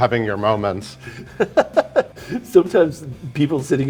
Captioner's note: Cameron laughing